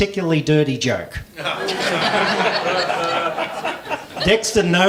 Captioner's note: laughing